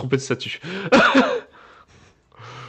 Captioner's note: small laugh